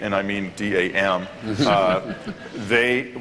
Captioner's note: laughter